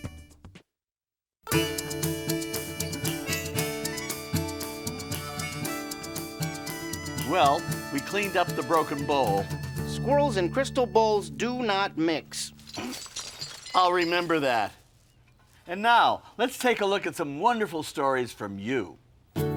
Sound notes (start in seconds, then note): 1.6 upbeat harmonica music; 12.4 glass jingling; 19.3 gentle guitar music